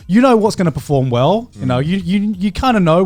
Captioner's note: affirmative murmuring